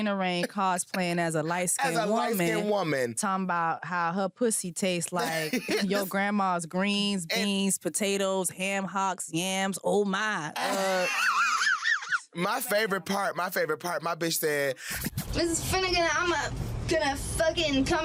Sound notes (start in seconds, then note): 10.6 laughs